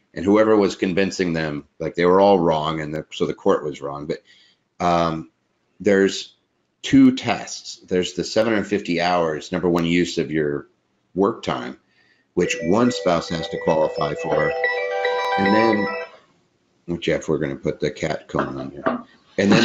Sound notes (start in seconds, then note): 12.4 bells dinging